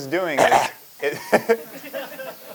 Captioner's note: cough; laughter